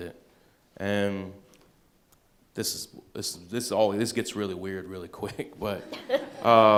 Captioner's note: chuckles